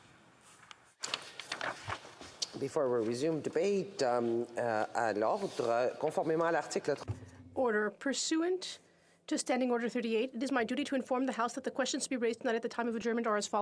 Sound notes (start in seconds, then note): 9.1 speaking FRENCH